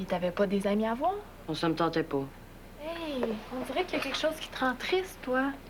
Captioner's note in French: none